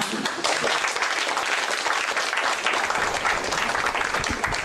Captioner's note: applause